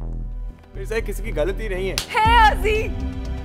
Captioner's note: Slaps